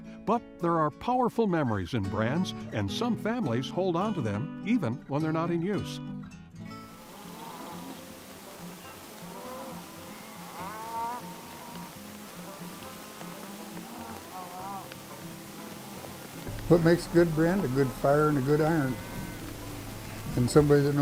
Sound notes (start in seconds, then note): 7.0 cattle lowing; 7.0 flames whooshing